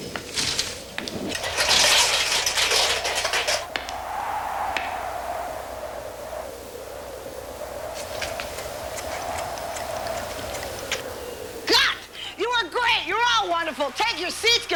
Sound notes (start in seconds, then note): 0.0 footsteps; 1.3 clattering; 4.8 footsteps